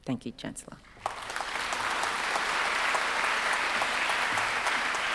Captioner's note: congregation clapping